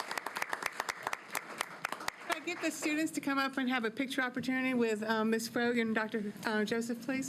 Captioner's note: applause